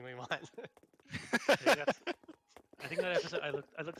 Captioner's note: laughter